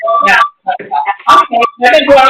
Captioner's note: feedback noise